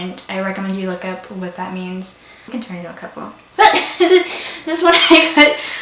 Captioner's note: laughs